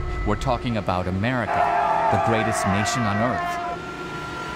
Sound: soldiers yelling

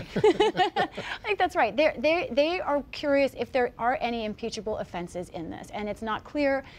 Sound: laughter

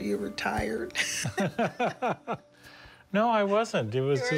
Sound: both laugh

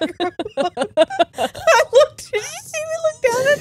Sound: both laughing

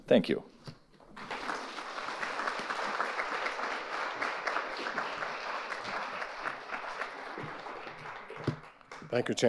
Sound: audience applauding

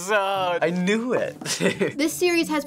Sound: chuckles

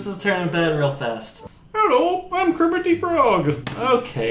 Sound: in high pitch voice

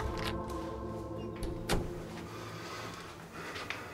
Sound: door opening

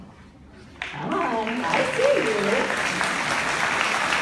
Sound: applause

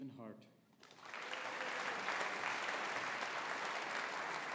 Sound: audience applauding

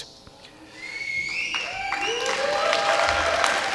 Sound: applause

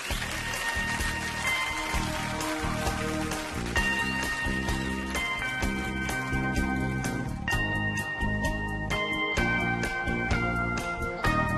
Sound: audience applauding

